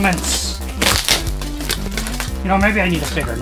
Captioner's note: packaging tape tears